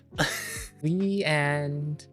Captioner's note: laughs